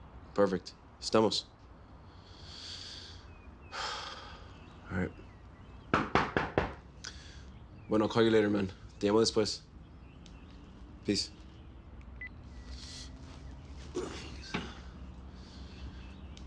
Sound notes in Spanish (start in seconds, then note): 5.9 Toques en la puerta